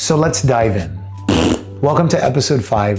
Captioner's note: pun fart